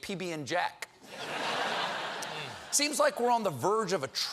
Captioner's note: laughter